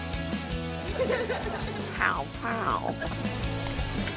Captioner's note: laughing